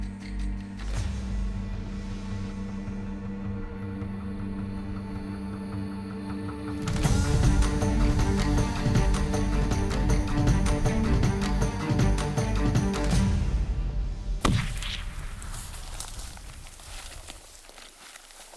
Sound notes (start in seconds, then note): 13.8 gunshot; 17.4 rustling sounds